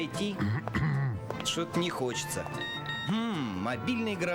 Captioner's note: sound incoming SMS